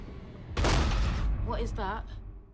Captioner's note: bang